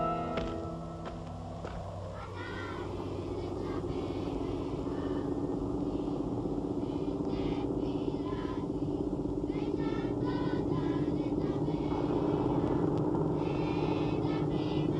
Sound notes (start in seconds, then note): 3.0 bus engine hums; 3.0 children singing